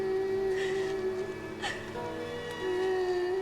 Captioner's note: sobs